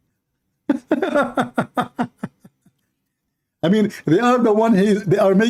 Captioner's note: Ketawa